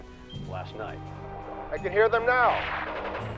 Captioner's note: gunfire